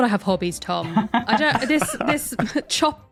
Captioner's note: chuckle